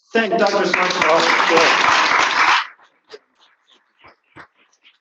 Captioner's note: applause